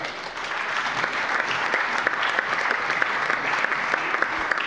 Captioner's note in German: Allgemeiner Beifall